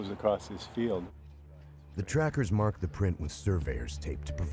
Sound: voiceover

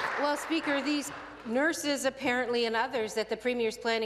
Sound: applause

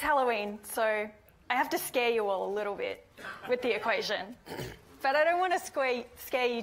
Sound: hiccups

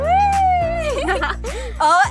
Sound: laughing

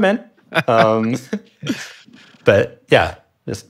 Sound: laughing

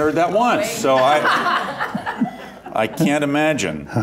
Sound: laughter

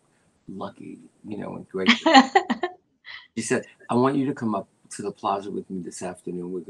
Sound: laughter

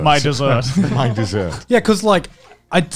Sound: laughing

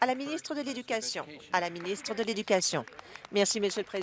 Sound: applause

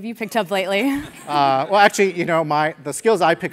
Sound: laugh

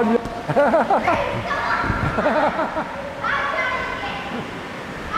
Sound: lighthearted laughter

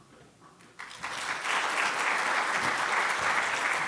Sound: applause

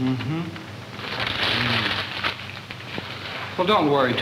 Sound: paper crumpled

